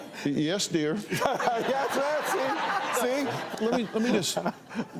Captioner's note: laughs